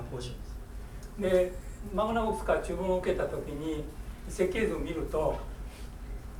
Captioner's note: speaking in foreign language